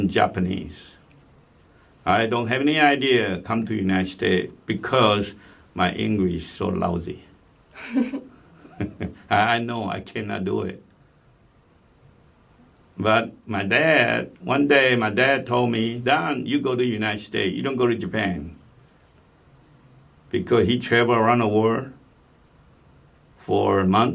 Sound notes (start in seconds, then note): 7.8 laugh